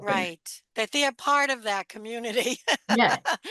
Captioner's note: laughter